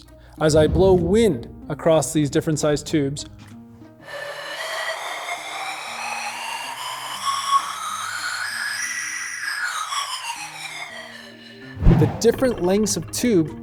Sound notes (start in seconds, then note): 4.2 whistling wind sound